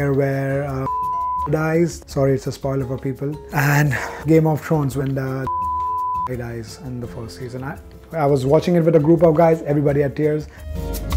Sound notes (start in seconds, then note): 0.8 beep; 5.4 beep